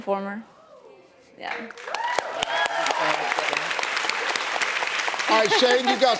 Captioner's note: audience cheers and claps